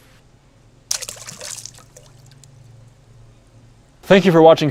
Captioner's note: water splashes